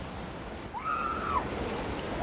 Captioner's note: excited screaming